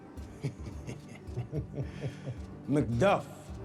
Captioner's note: chuckling